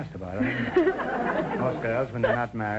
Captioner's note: laughing